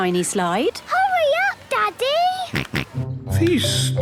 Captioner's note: George snorts